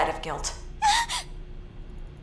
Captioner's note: gasp!